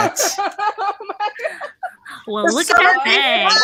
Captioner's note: everyone laughs